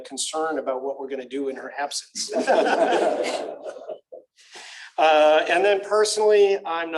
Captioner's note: laughter